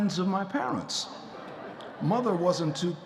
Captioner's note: audience chuckling